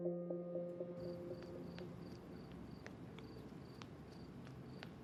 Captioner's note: crickets chirping